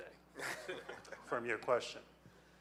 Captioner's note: audience laughing